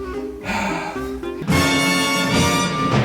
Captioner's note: sighs; upbeat music